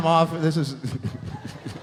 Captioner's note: laughs